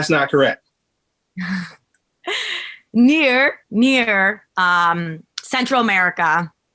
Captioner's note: chuckling